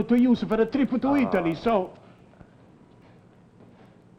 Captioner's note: Len scoffs